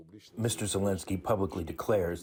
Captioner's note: through translator